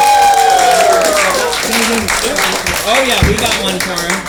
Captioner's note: applause